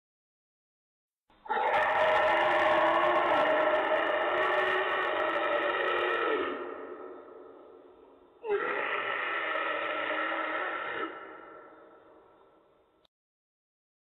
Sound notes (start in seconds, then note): 1.4 monster bellowing